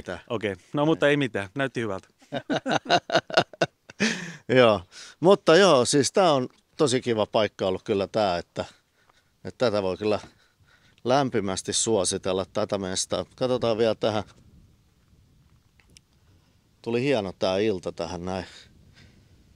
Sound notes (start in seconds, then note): 2.2 laughter